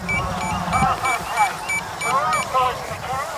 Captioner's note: beeping